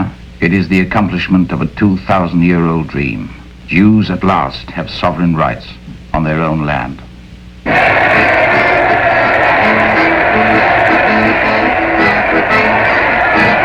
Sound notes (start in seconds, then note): 7.6 crowd cheering; 7.7 festive music